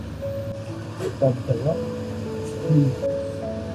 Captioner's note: speaking Cantonese